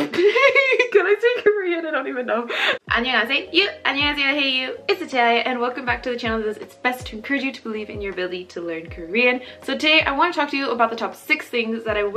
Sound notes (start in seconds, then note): 0.0 giggles; 3.0 speaking Korean